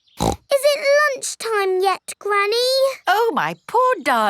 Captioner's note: snorts